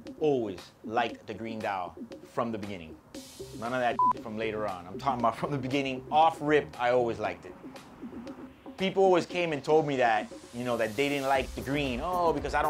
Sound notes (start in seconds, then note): 3.9 beep